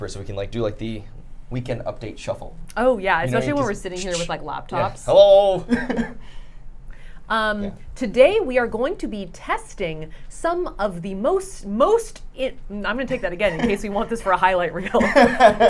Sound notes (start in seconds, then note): 6.4 laughing; 14.9 laughing